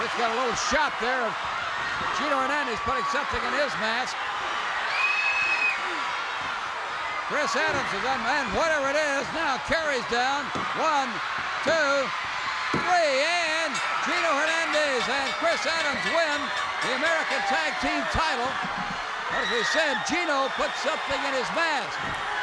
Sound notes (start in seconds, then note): 13.6 bell rings